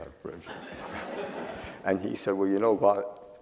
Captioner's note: audience laughing